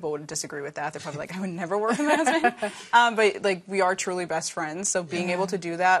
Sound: laughter

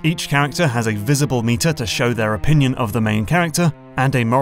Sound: none

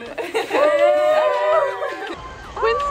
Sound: cheering

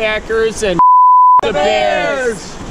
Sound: beep

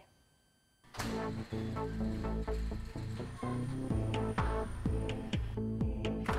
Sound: door opening

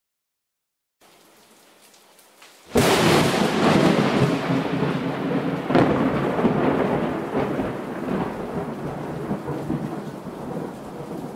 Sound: sound of lightning strike

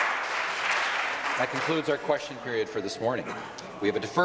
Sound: some Applause

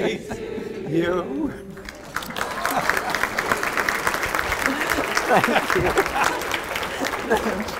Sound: applause

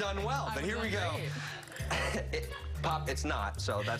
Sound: laughter

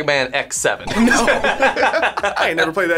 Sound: both laugh

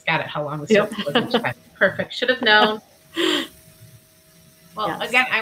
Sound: laughs

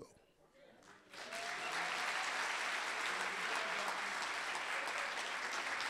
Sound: audience applauding

